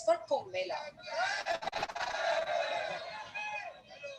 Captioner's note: cheering